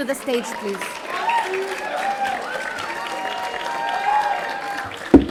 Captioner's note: audience applauding